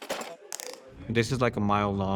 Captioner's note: ruido metálico; clic